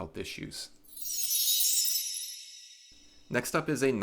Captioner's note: chime sounds